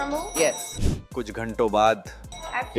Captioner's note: nasal sound